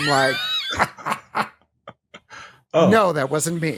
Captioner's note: laughter